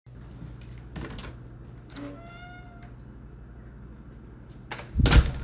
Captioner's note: door creaks open; door slams